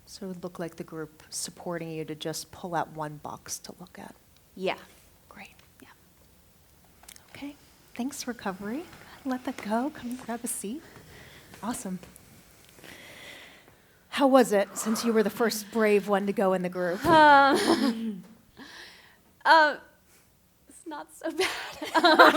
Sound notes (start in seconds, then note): 17.4 nervous laughter; 21.4 laughter